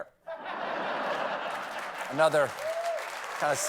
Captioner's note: laughter; applause